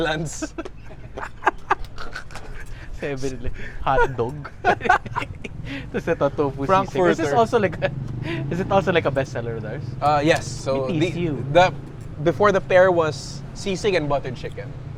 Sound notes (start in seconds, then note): 0.2 laughs; 4.6 chuckles